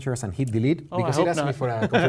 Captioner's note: laugh